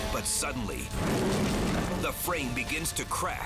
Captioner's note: fire roaring